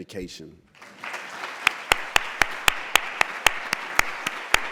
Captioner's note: applause